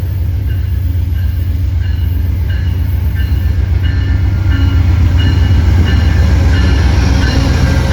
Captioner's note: Amtrak bell dinging